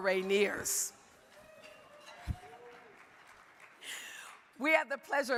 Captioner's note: crowd cheering